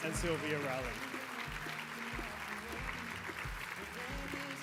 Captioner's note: applause